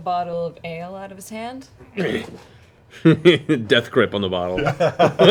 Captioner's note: laughs